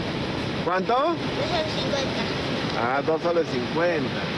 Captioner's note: man speaking native language